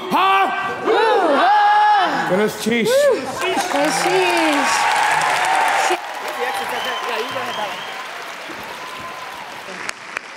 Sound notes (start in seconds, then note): 2.0 foreign speaking; 3.3 applauds